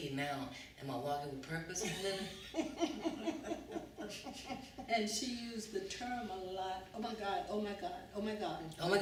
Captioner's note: laughter